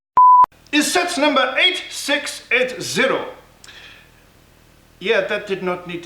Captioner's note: French accent